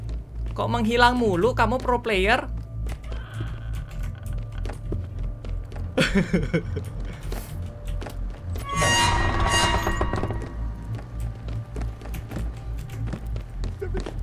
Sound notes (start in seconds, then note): 6.0 laugh